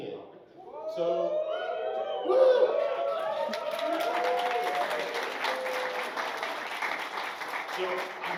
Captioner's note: crowd cheers; applause